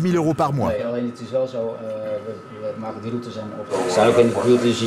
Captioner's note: foreign language spoken audio